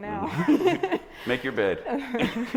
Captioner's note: group laughing